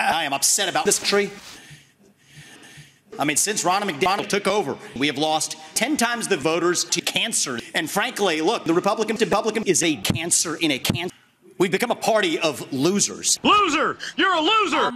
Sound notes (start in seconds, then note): 1.4 takes a deep breath to calm down